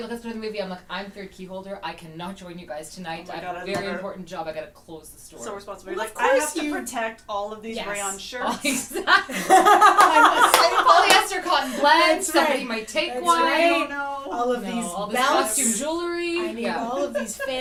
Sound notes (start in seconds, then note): 8.4 laughter